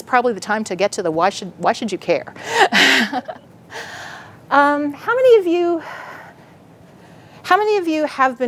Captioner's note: laughs